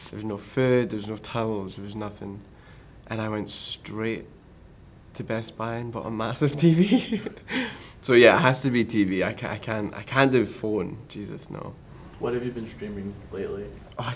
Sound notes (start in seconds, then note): 6.4 laughs